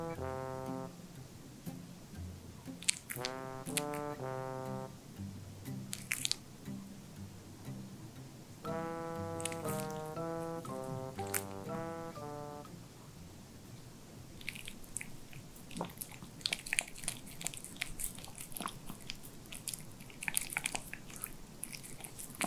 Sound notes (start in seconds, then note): 15.6 licking the sauce